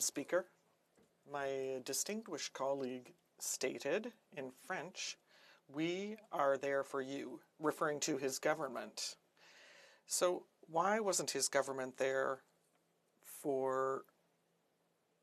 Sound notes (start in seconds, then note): 4.2 speaking French